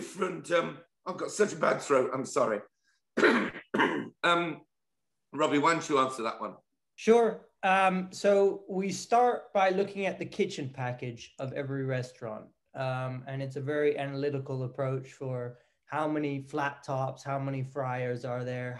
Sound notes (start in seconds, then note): 3.1 cough